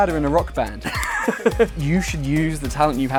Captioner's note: laughing